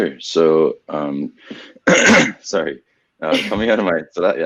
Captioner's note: clears throat